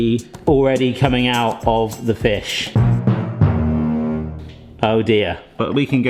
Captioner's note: mocking tones